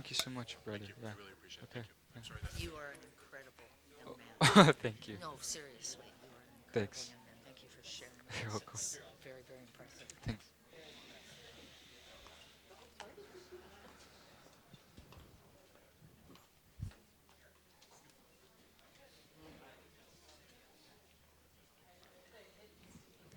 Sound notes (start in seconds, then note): 7.0 laughing